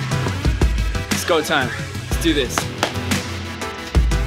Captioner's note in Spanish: Aplausos